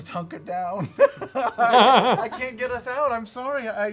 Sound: laughs

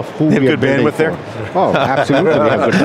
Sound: laughs

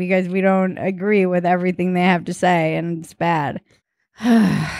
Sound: groaning

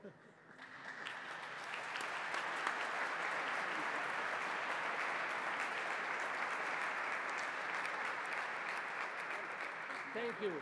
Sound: applause

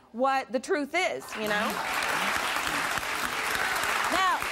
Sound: audience applause

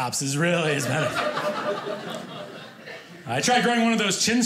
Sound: audience laughing

